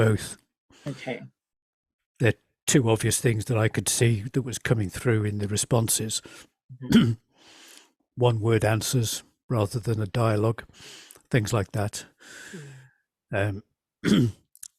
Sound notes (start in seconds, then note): 6.8 coughs